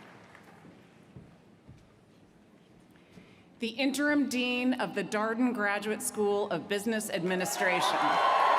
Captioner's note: cheers & applause